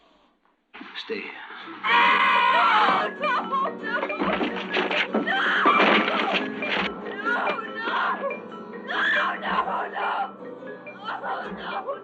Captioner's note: screaming